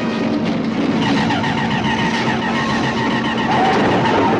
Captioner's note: zapping